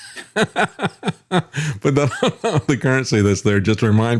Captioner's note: laughing